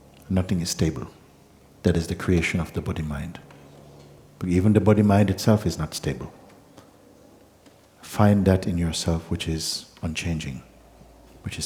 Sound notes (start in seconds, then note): none